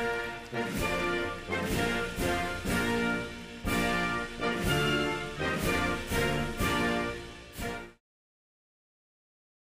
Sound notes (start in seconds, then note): 0.0 applause